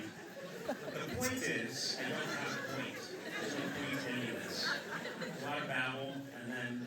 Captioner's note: laughter